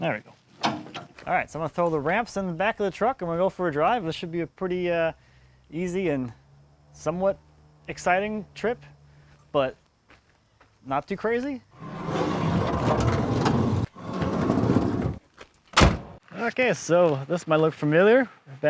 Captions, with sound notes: there we go. All right, so I'm gonna throw the ramps in the back of the truck and we'll go for a drive. This should be a pretty easy and somewhat exciting trip, but not too crazy. (ramps rumbling) (trunk slams) Okay, so this might look familiar.